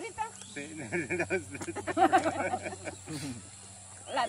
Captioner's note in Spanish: risas